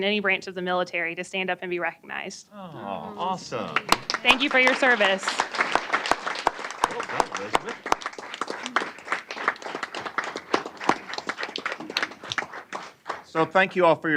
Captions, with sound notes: branch of the military to stand up and be recognized. >> Oh, awesome. >> Thank you for your service. [APPLAUSE] >> So, thank you all for your service. I also want to mention many of our students in our schools were